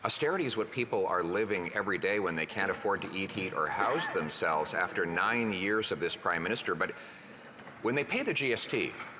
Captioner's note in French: voix de l'interprète